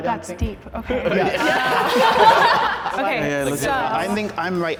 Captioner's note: all laughing